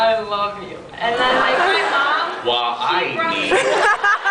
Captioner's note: laughs